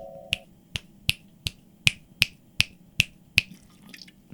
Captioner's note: fingers snapping